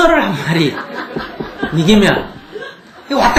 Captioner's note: audience Laughter